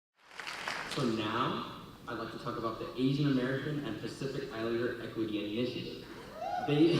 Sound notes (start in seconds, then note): 0.2 applause; 6.3 cheers and applause